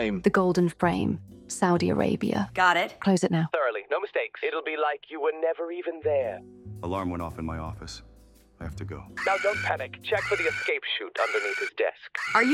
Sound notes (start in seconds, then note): 9.2 alarm blaring